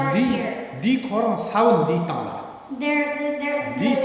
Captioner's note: speaking tibetan